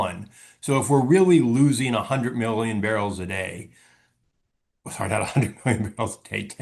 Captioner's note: laughs